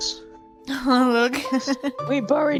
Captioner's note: laughs